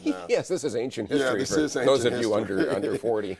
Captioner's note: laughs